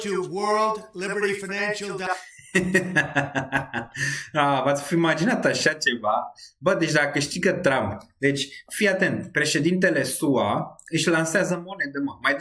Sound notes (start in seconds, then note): 2.1 laughter